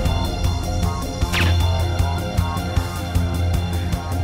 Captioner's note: gun fires